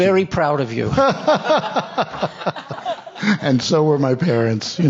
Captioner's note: panelists and audience laughing